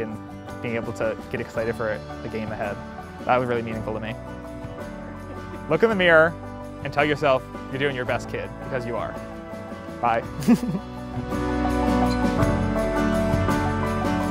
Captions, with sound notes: and being able to get excited for the game ahead. That was really meaningful to me. Look in the mirror and tell yourself, "You're doing your best, kid." Because you are. Bye. (chuckles) (uplifting music)